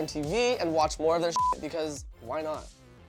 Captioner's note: beep